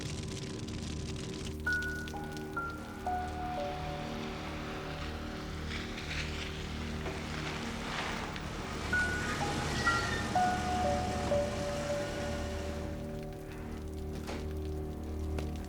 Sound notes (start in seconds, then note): 1.6 slow music; 9.1 breaks squeaking; 9.1 engine humming